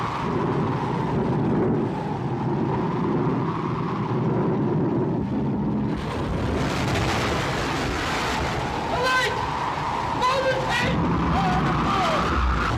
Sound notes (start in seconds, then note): 5.2 wind howling; 5.8 waves crashing